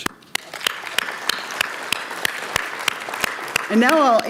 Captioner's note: audience applauds